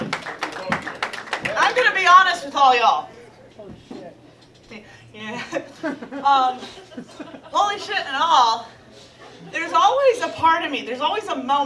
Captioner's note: laughs